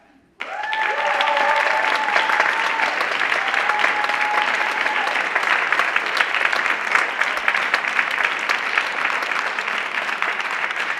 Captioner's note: applause